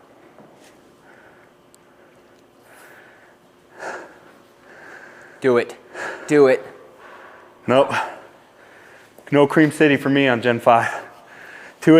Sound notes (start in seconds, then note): 2.5 heavy breathing